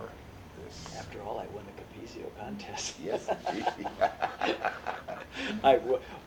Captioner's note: laughs; laughter